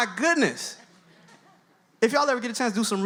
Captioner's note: audience laughs